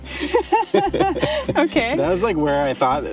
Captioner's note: laughing